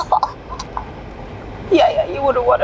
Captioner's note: gagging